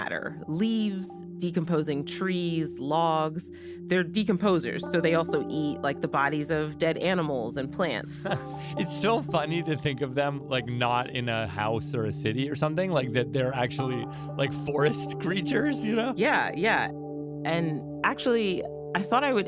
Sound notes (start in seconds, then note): 8.2 laughs